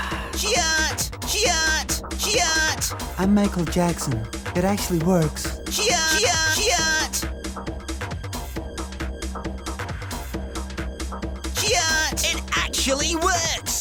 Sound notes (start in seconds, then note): 3.1 mimics michael jackson